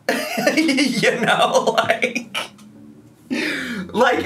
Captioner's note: laughs